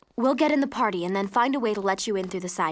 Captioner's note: none